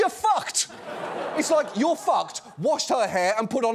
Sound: audience laughs

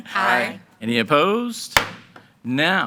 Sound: gavel bangs

